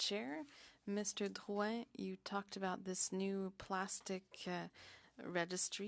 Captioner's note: speaking French